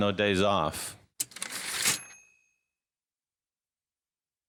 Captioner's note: typewriter ding